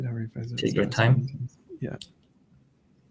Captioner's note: murmurs